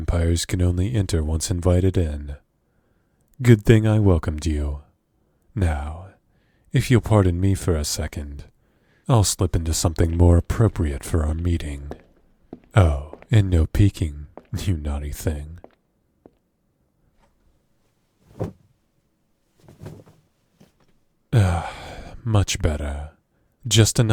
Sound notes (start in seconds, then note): 12.5 walking; 17.1 clothes moving